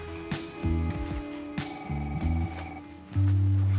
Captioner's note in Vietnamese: điện thoại reo